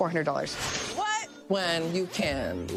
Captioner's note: banner chinking